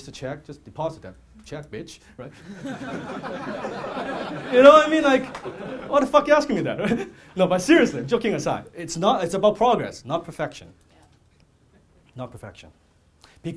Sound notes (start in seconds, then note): 2.4 audience laughing